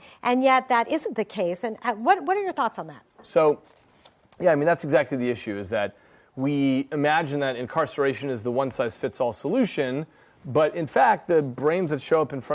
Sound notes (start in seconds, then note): none